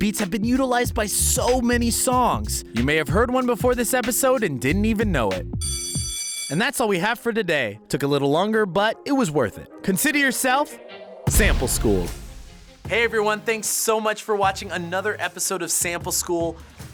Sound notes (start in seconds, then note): 5.6 school bell rings